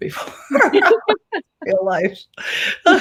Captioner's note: laughter